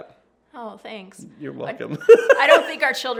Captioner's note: laughs